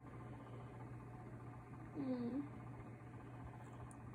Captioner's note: mechanized whirring; groaning